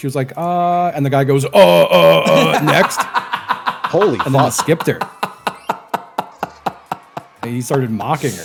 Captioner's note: laughs